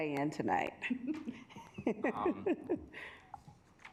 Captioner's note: chuckles